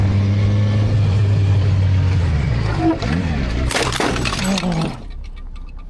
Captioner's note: motorcycle engine